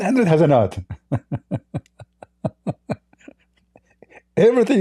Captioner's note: Ketawa